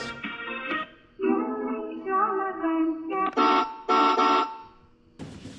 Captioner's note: horn sound